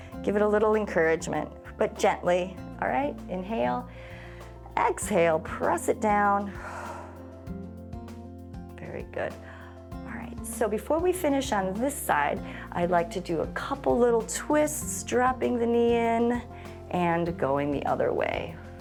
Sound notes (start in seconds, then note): 6.4 exhales; 6.5 inhales